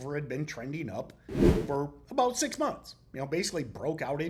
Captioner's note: screen whooshing